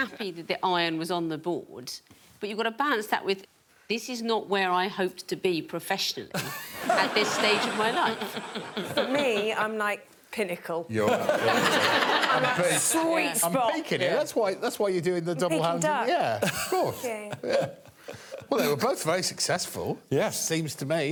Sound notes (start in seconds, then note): 6.7 all laughing; 11.0 audience laughing